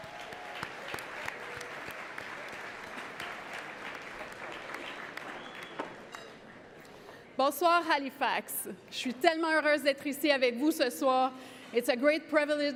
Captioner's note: cheering and Applause